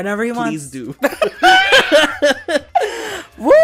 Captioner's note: chuckles; screams